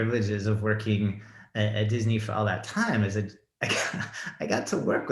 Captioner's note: laughs